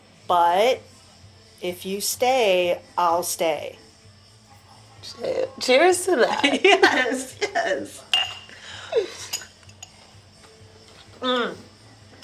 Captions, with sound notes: But... if you stay, I'll stay. Shit, cheers to that! [Laughs] Yes! [Glasses clink] Mmmm,